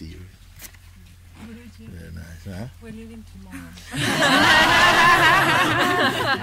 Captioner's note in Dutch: gelach